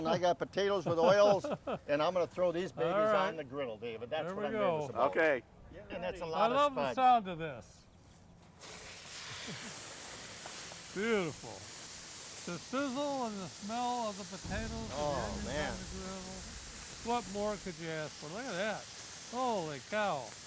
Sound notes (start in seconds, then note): 1.0 laughing; 8.4 potatoes sizzling; 15.9 brand sizzling